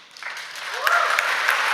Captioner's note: applause